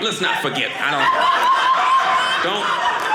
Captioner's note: audience laughing